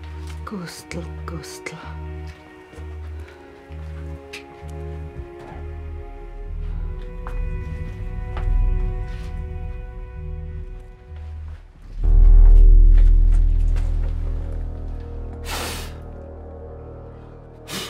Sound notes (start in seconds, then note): none